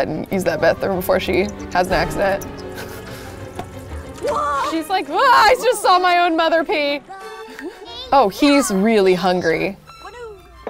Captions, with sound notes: and use that bathroom before has an accident. She's like (screams) I just saw my own mother pee! Oh, he's really hungry.